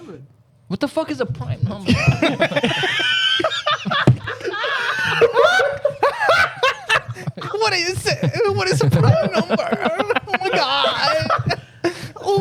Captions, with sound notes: What the fuck is a prime number? (Laughing) What is a prime number? Oh my God.